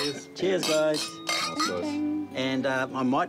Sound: glasses clink

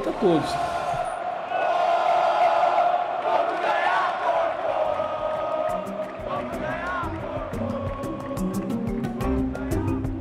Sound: cheering

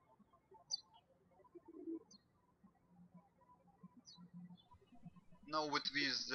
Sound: birds chirping

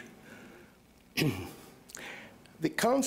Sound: clears throat

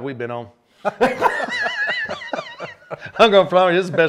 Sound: panelists laughing

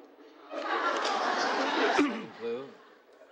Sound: laughing

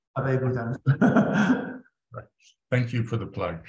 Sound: laughs

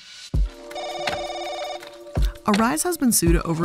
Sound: telephone rings

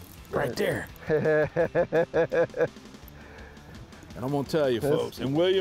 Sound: laughs

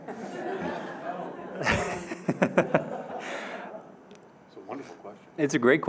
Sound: audience laughing

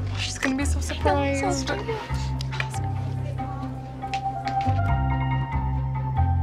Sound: talks quietly

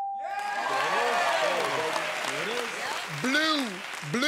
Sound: cheers and applause

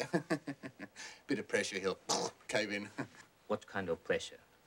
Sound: vocalizes collapse

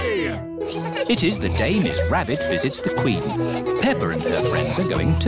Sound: all giggling

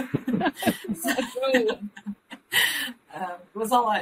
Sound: laughs

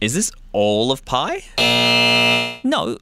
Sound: buzzer buzzing

